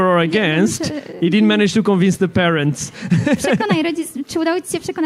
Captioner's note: laughs